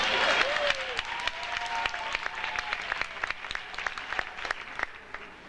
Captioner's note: audience applauding